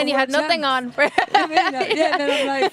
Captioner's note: laughing